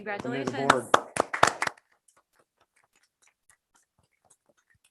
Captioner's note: members applaud